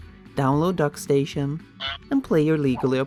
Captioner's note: honk